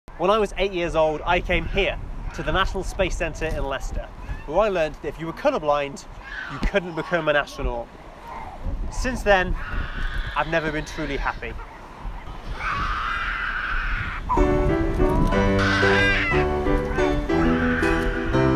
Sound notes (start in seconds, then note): 11.8 baby screaming in background